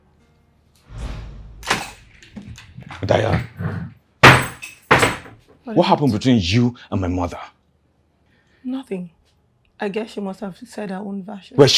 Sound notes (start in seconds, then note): 1.6 door opens; 4.3 door closes